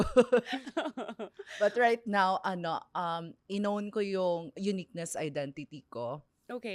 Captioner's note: laughs